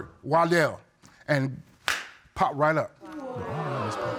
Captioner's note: audience exclaims